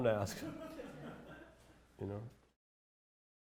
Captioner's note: laughter